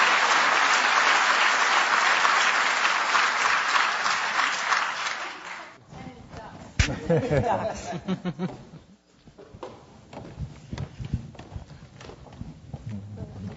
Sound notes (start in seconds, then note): 2.4 audience applause; 2.4 voiceover laughter